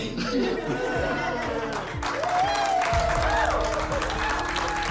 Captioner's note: cheering